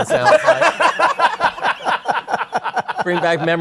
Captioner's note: laughter